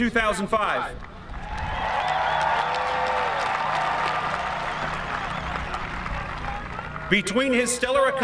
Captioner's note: cheering